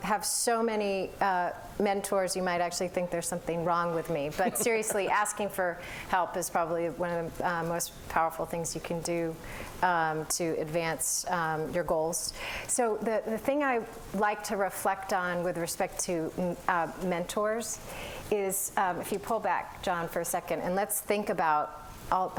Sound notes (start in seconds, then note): 4.4 laughter